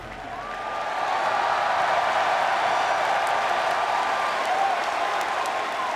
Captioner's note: audience applauds and cheers